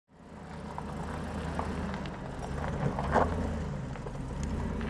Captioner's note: engine rumbling